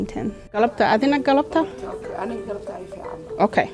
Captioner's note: group speaking in a foreign language